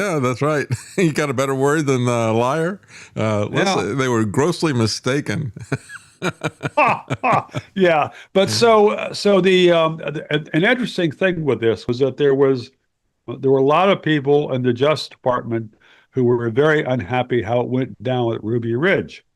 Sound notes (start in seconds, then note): 5.2 laughing